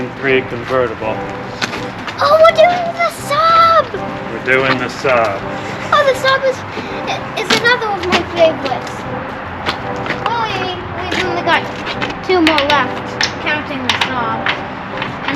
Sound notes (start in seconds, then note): 1.1 beep, Ah, Beep